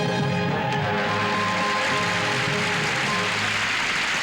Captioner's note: applause